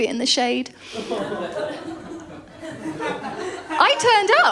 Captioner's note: laughter